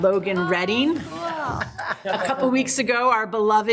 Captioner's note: laugh